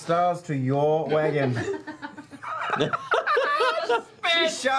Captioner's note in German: Lachen